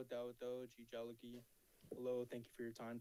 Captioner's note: speaks in foreign language